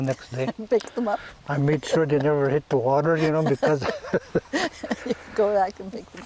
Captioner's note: laughing